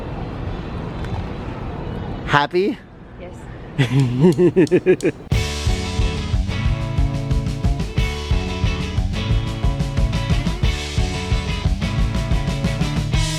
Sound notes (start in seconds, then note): 3.8 laughs; 5.3 exciting upbeat music